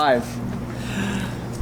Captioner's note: dramatic gasp